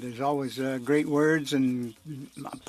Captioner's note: speaking French